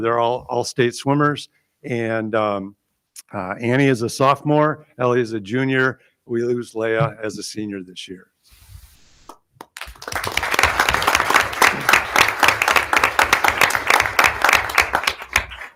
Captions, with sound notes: They're all Allstate swimmers. And Annie is a sophomore, Ellie is a junior, we lose Leah as a senior this year. (audience applauding)